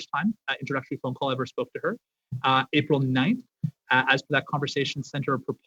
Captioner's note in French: voix de l'interprète